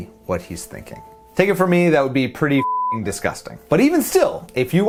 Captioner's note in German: piep